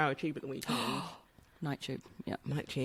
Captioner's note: gasps